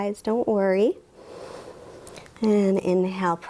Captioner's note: inhales